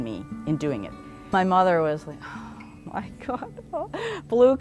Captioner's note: exasperated sigh